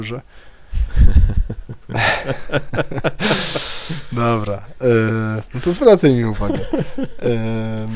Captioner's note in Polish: śmiech